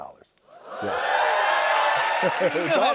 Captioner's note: cheers and applause